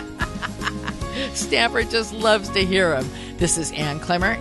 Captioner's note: laughter